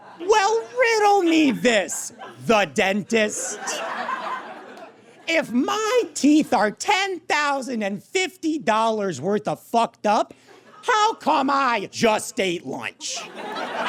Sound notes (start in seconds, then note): 3.0 laughter intensifies; 13.1 audience laughs uproariously